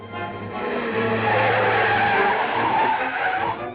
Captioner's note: tires screeching